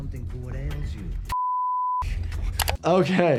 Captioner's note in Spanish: pitido